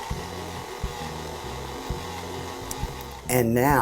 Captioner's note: mixer whirring